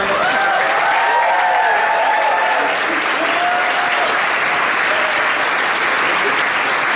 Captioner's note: audience applauding